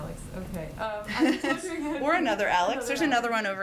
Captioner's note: laughs